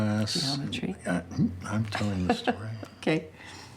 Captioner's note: Grace laughs